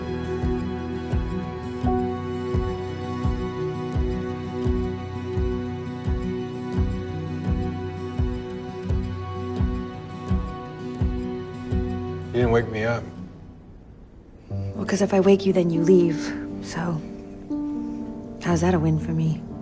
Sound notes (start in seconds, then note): 12.3 voiceover